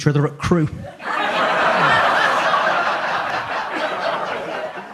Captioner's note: audience laughs